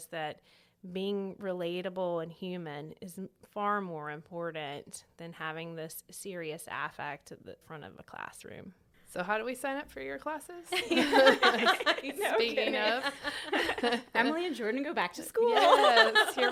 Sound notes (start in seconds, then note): 10.7 laughter